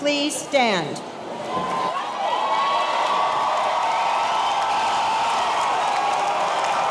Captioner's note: audience cheering; audience applauding